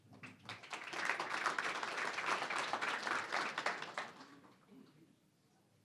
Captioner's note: applause